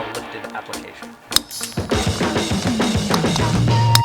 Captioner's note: clinking